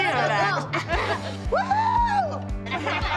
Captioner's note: laughs; Abby Lee whoops; laughter